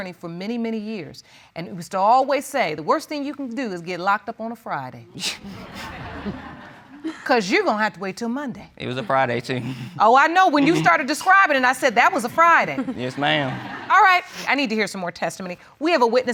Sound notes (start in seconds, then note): 5.5 audience laughing; 10.6 chuckles